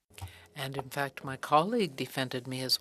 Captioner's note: speaking french